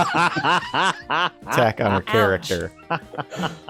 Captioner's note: laughing